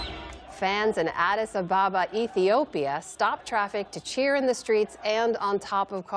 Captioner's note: cheers